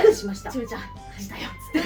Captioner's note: laughs